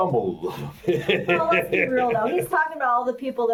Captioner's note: laughs